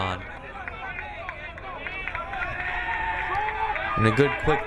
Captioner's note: crowd cheering